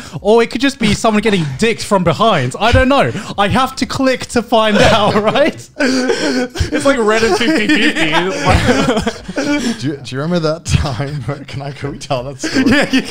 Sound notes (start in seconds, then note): 4.6 group laughs